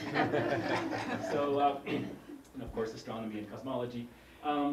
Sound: laugh

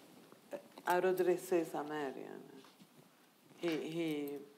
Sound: speaking in foreign language

